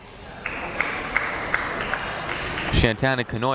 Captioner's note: crowd clapping